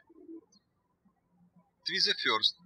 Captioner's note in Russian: птички щебечут